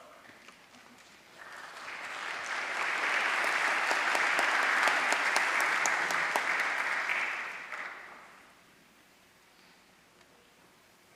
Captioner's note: applause